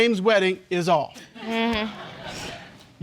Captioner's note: audience chuckles